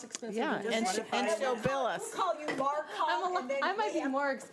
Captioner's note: members chattering